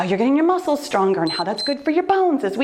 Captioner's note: timer beeps